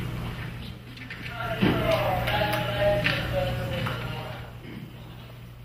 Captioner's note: intercom Voice